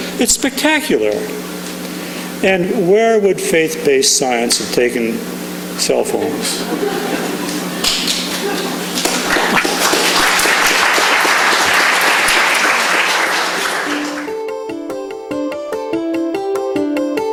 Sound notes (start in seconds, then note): 6.2 laughing; 7.2 clapping; 13.7 bright music